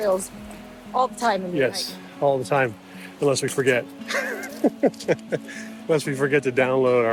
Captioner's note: laughing